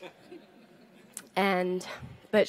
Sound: audience laughs

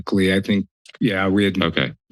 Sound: stutters

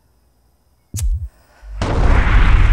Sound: flint clicking; fire roaring

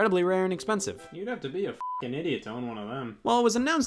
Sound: beep

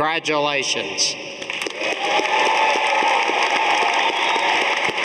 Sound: audience applauding

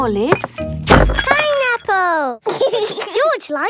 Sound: bangs; laughs

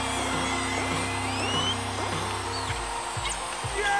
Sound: audience cheers and whistles

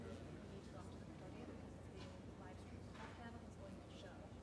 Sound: background chatter

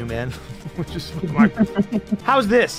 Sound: laughs

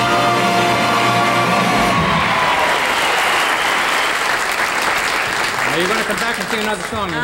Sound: audience applauding

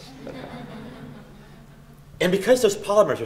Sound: laughter

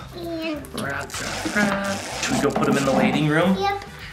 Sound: tape stretching

